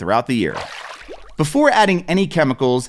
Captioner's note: water splashes